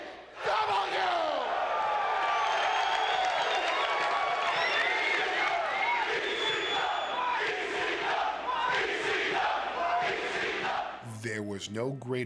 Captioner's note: applause